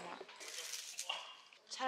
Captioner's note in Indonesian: Crunch